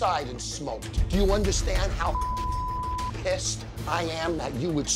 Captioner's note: beep